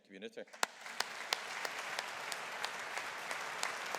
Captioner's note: audience applauding